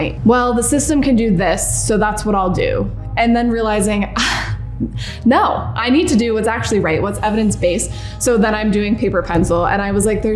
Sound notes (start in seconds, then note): 4.5 scoffs